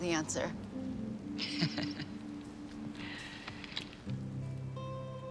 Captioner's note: laughs